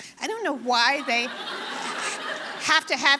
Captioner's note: audience laughing